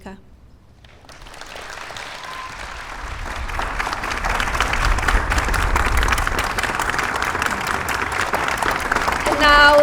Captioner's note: applause